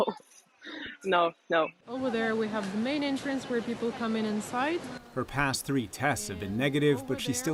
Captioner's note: laughter